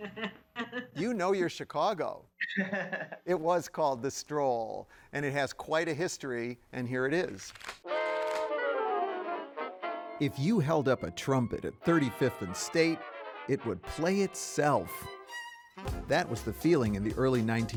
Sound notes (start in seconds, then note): 0.6 laughs; 7.2 paper fluttering